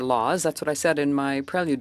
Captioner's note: speaking French